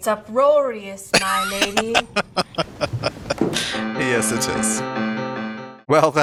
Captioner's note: laughing